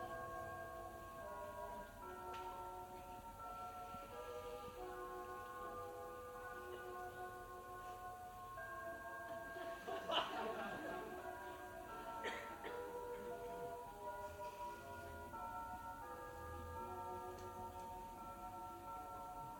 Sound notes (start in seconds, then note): 5.0 sound of bells; 6.9 laughter